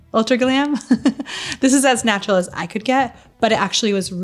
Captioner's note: laughing